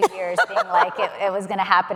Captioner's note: laughing